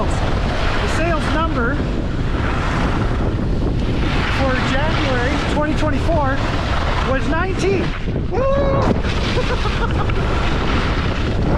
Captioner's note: insert high pitched baby-pants scream